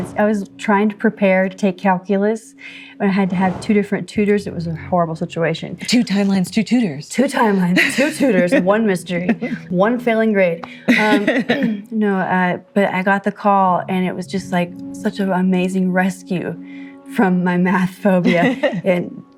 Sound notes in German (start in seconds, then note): 10.6 Lachen